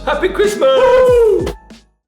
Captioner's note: cheering